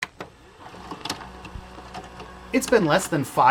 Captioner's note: VCR playing sounds